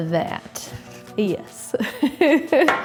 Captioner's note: chuckles